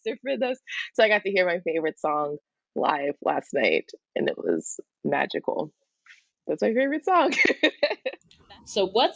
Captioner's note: laughs